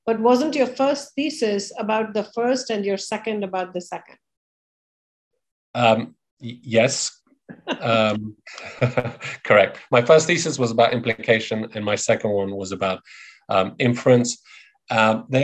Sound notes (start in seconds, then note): 7.5 laughing